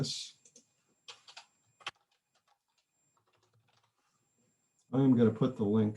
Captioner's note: keyboard typing